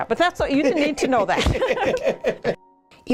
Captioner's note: laughter